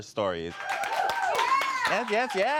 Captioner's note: audience cheers